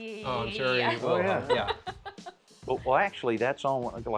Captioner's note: laughter